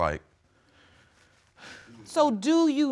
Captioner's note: sighs